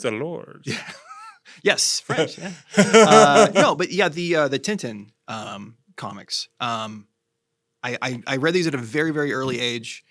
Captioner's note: laughs